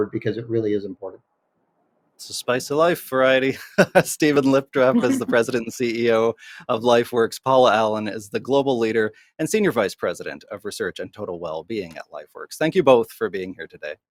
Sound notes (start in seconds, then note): 4.8 laughing